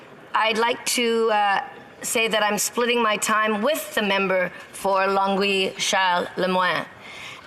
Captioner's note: speaking French